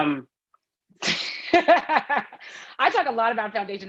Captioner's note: speaker laughing